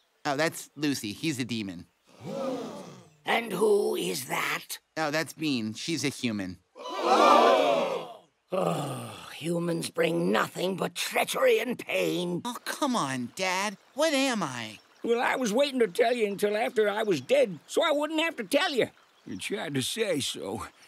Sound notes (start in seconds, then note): 1.9 elves gasping; 6.9 elves gasping